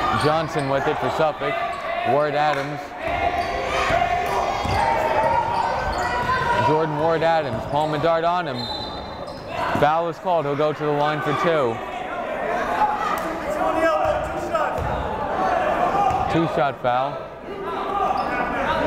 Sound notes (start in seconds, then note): 0.1 yelling; 4.4 yelling; 8.5 whistle blowing; 13.8 yelling